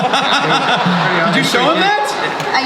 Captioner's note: audience laughs